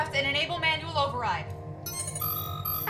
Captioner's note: error chime